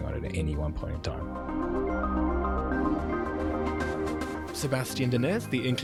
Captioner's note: voiceover